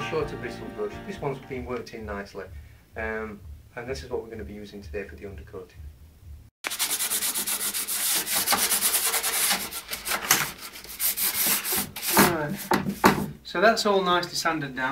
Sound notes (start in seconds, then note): 6.6 terrible sand paper noise